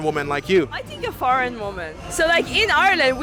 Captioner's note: Irish accent